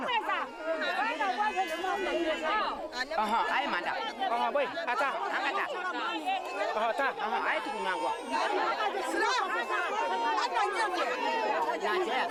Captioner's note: children crying